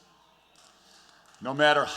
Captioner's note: applause